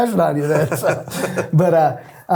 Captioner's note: both laughing